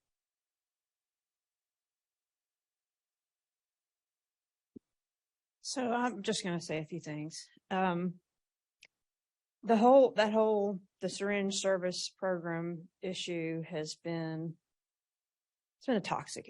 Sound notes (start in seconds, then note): none